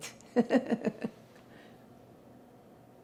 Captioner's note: laughing